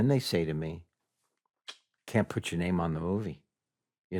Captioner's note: clicks tongue